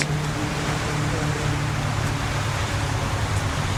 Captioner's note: airplane Overhead